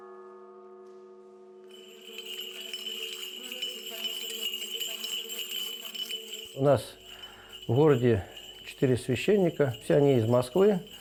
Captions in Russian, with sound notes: (звон кадила) У нас в городе четыре священника. Все они из Москвы.